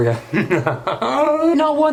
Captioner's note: laughs